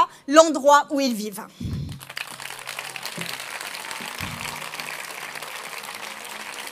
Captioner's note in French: Applaudissements